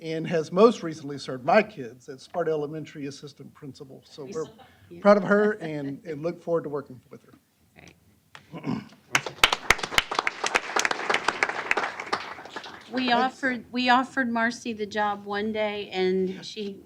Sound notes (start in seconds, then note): 7.5 applause